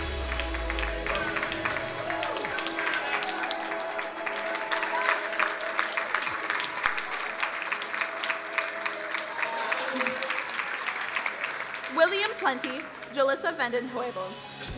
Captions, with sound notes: (crowd applauding) William Plenty, Jallissa Vanden Heuvel,